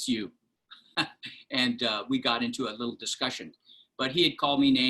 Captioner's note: laughter